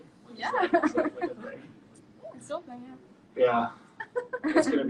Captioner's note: chuckles